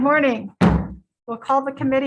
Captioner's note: gavel bangs